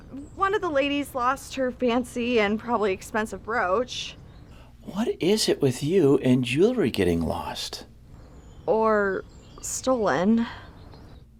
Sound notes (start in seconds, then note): none